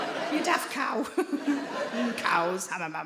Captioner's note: audience laughing